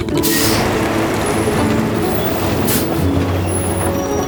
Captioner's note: truck humming